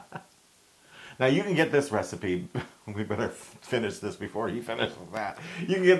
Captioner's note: laugh